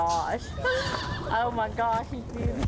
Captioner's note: gasps